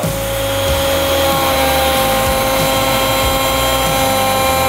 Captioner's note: router whirring